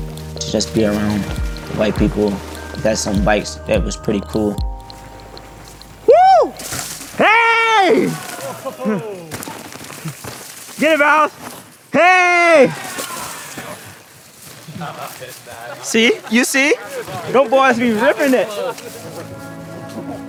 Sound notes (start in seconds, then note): 14.6 indistinct chatter